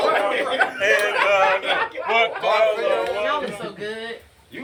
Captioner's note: group laughing drowns out the speaker